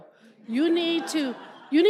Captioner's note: laughter